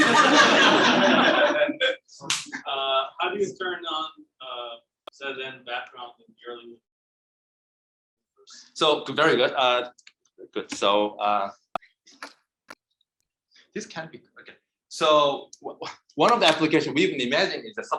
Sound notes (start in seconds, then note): 0.0 audience laughing; 6.7 speaking faintly